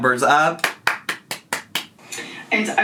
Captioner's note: clapping